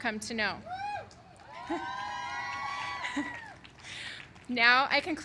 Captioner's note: applause